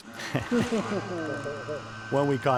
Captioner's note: guys laughing